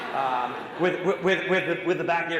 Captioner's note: audience laughing